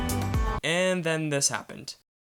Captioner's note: voiceover